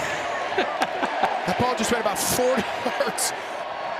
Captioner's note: laughing